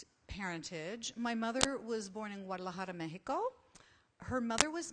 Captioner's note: foreign language